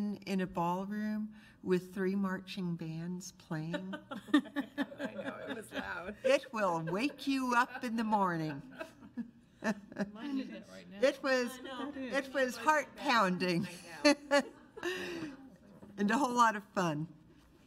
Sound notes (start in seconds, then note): 4.0 board laughs; 9.3 overlapping chattering; 14.0 overlapping chattering